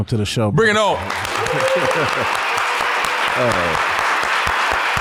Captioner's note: audience applauding